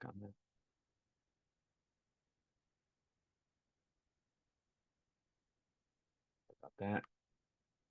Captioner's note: silence